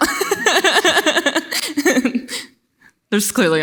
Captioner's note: laughs